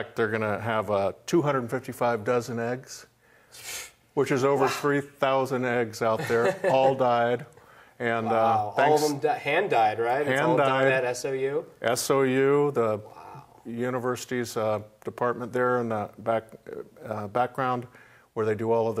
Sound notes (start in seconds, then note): 6.1 laughs